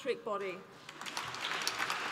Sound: applause

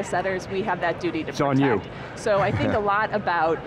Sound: laughs

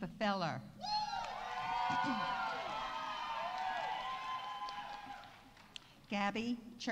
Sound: audience cheering; audience applauding

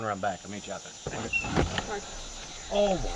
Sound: door slams

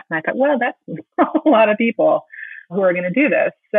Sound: laughing

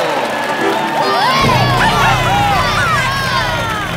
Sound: cheering

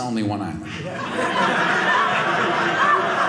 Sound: audience laughing

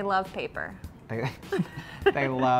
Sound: both laugh

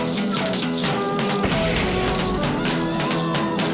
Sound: fire roaring

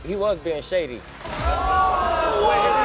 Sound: audience exclaiming

